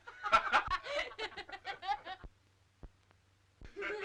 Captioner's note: group laughing